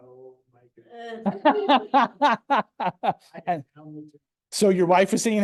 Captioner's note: laughs